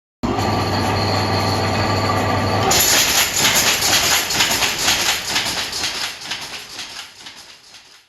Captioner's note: machine Noise